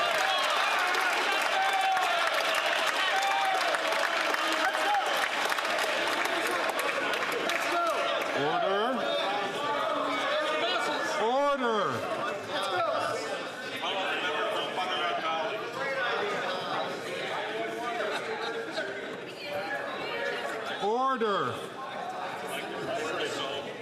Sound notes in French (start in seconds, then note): 5.9 applaudissements